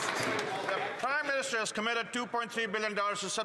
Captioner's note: some Applause